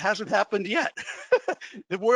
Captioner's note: laughs